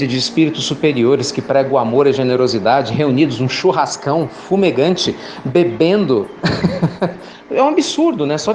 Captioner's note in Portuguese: Risos